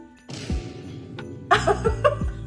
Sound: dramatic sound effect bangs; laughs

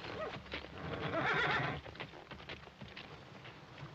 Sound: horses neighing

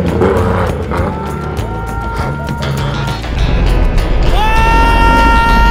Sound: everyone cheers

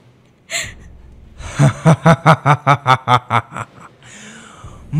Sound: laughing

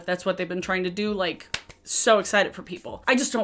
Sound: hands clapping

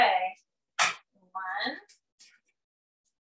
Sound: cracking eggs

